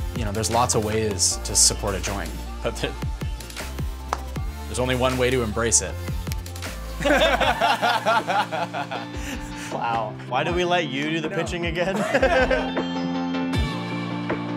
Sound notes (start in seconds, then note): 6.9 all laughing; 10.5 laughing